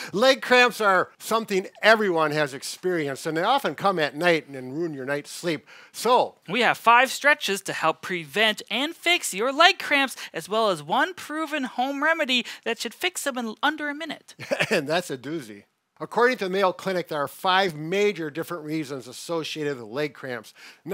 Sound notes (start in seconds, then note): 14.4 chuckles